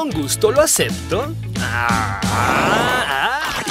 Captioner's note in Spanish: ríe; ríen; Tawny relincha entre dientes